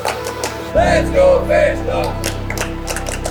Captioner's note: crowd; crowd clapping